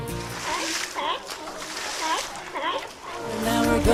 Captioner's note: seal calls